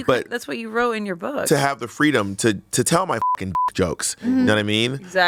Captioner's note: beep